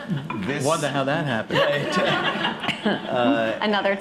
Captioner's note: laughter